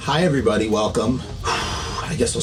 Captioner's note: exhaling sigh